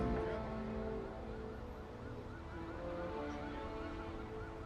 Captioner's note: car alarms blaring